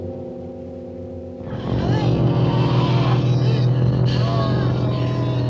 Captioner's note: growling